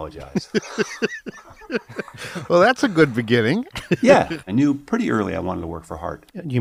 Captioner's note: laughs